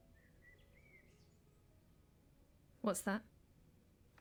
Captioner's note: birds chirping; soft piano music